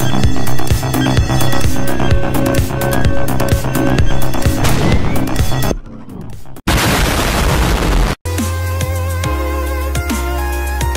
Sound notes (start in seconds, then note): 4.6 auxiliary confinement field explodes; 6.6 bomb exploding